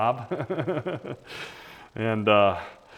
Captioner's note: laughs